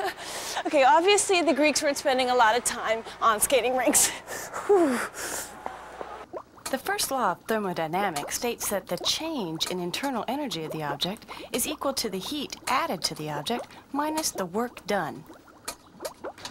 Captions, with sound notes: OKAY, OBVIOUSL THE GREEKS WEREN'T SPENDING A LOT OF TIME ON SKATING RINKS. ( shivers ) THE FIRST LAW OF THERMODYNAMICS STATES THAT THCHANGE IN INTERNAL ENERGY OF THE OBJECT IS EQUAL TO THE HEAT ADDED TO THE OBJECT MINUS THE WORK DON